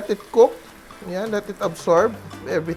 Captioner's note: sizzle